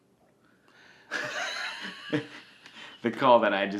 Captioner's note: both laugh